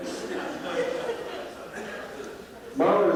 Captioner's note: laughter